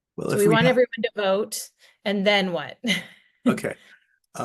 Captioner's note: laughs